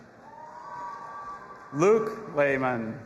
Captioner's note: audience applauding and cheering